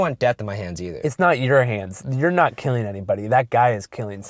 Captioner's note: voiceover